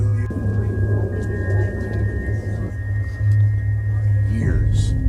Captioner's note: background chattering